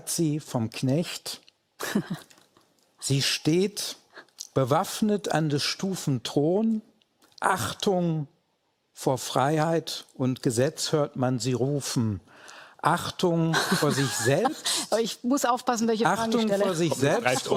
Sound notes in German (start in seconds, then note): 1.8 Frau Maischberger lacht